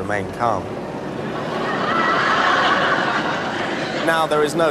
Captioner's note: laughter